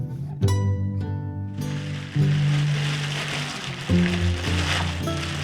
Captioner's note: plastic bag crinkling